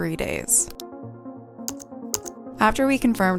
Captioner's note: keys clacking